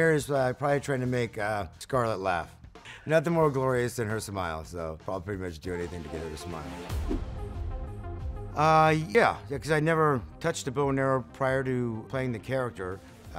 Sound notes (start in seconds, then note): 6.9 upbeat music; 7.0 image whooshing